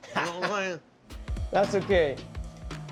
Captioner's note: laughs